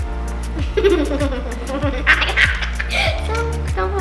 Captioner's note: maniacal laughter